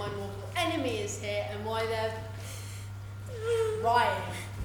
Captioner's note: none